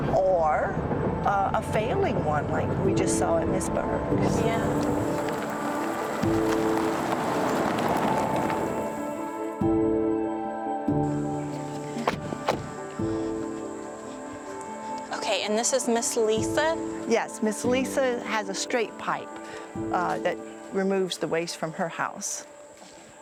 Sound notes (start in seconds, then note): 5.7 gentle music; 5.7 gravel crunching; 9.4 gentle music continues; 11.8 doors latching; 22.9 gravel crunching